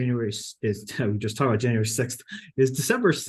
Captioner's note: chuckles